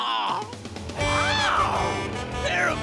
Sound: horn honking

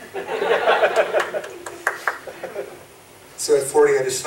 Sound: audience laughs

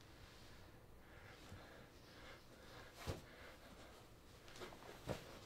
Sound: breathes heavily

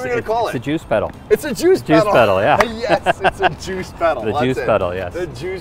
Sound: laugh

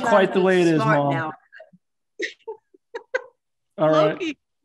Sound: laughter

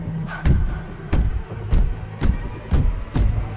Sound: pounding footsteps

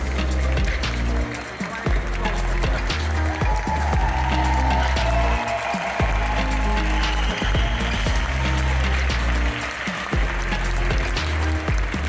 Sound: applause; ♫ Midtempo guitar music ♫

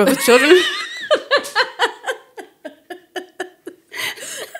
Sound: speakers laughing

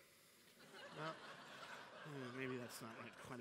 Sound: laughter

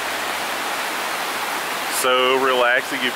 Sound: rushing water

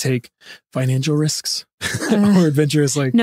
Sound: laughs

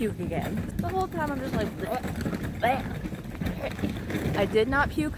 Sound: gagging

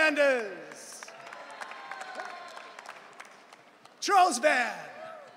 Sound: audience cheering

